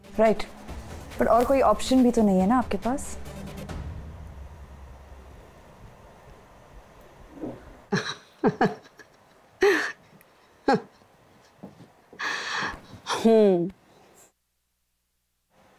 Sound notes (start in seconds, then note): 7.8 laughing; 12.2 sighs